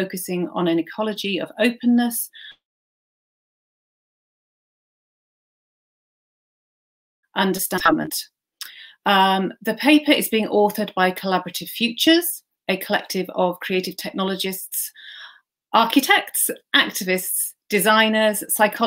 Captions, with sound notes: typologies and forms of working focusing on an equality of openness **Audio lost** >>The paper is being authored by Collaborative Futures, a collective of creative technologists. Architects, architects, activists,